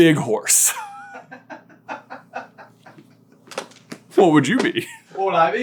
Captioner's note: cracking up